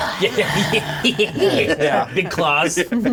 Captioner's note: players laughing